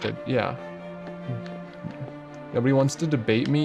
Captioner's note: chuckles